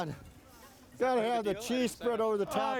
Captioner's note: chattering